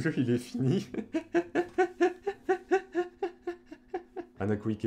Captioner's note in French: Rires